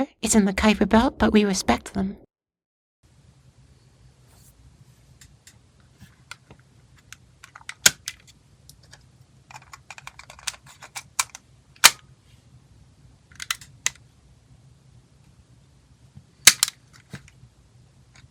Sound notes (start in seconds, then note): 7.7 sounds of tape recorder handling